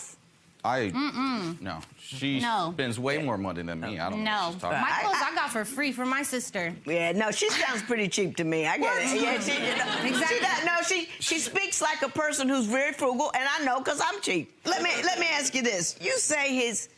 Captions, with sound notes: - Uh-uhm, no. - She spends way more money than me, I don't know what she's talking about. - My clothes I got for free from my sister. - No she sounds pretty cheap to me. (audience laughs) - Exactly. - She speaks like a person who is very frugal, and I know 'cause I'm cheap. Let me ask you this, you say his...